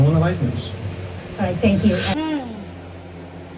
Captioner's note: Caprice sighs